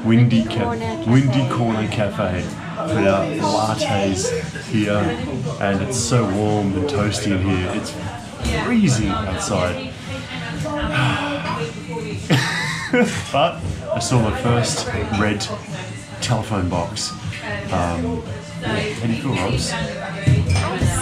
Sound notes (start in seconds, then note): 10.8 sighs; 12.2 laughs